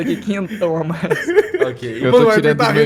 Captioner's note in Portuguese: risos